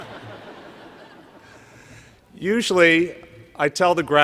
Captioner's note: laughter